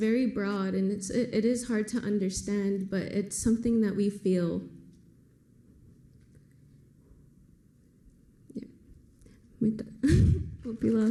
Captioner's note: foreign language